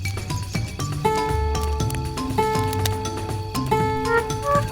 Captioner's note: string boinging continues; shell tone music continues